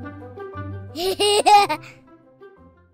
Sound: laughter

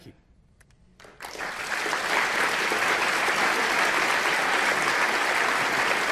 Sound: applause

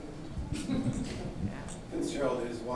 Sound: audience laughing

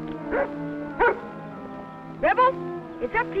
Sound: dog barks

